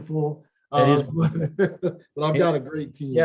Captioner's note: laughs